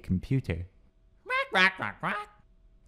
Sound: squawks

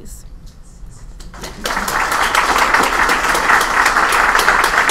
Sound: applause

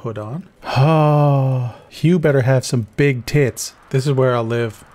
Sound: sigh

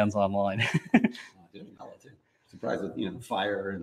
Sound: laughs

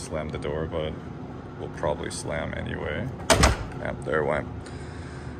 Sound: door lightly slams

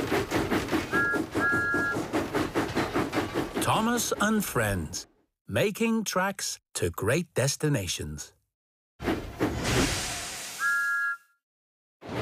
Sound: whistle toots

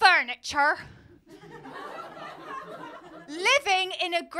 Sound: laughter

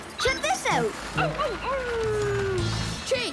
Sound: howling

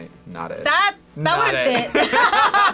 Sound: both laugh

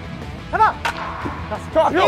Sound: hits

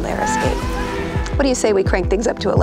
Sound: people screaming

